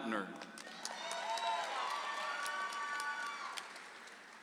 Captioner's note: audience applauds